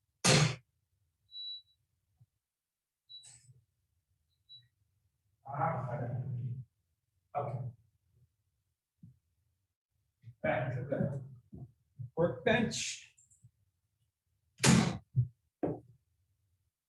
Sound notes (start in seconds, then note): 0.8 oven door slamming; 2.7 timer beeping